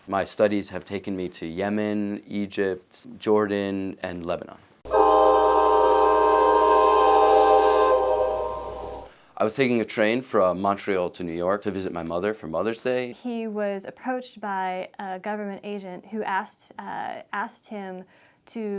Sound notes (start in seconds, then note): 4.9 train sounds